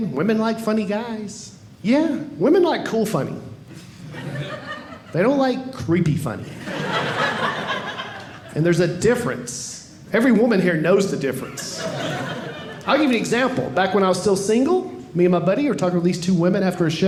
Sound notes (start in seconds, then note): 6.5 audience laughing